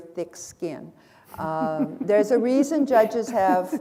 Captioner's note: chuckle